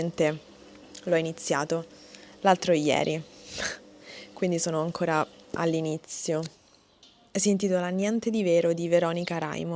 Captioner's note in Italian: sbuffare